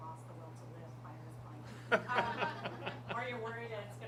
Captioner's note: laughter